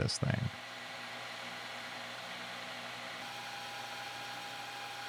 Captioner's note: lathe whirring